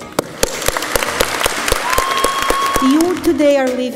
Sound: audience applauds

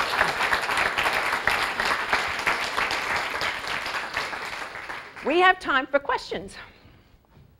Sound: applause

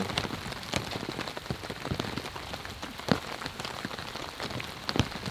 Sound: rain pouring

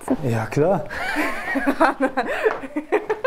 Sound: laughter

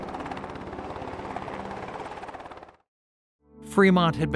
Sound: helicopter blades whirring

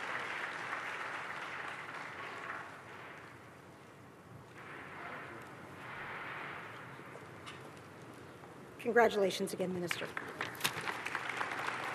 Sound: applause

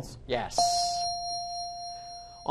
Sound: ding

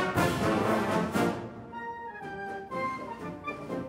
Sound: none

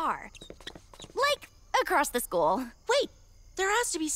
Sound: shoes squeaking on floor

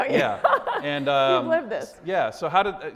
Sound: Kelly laughs

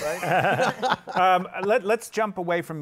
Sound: laughter

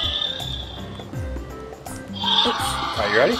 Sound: upbeat music; dinosaur growls

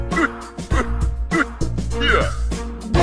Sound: henchman noises

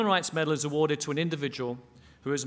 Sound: none

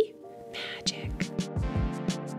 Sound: whispers

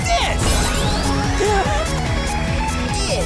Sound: gasping

